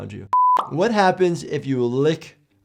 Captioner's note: screen beeping